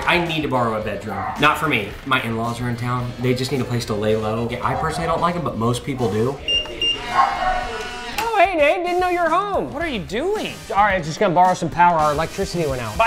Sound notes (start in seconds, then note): 6.3 beeping